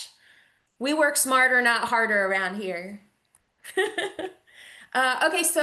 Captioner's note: chuckles